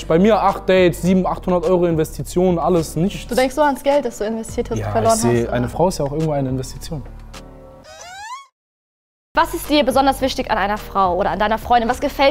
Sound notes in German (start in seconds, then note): 7.9 Fragender Laut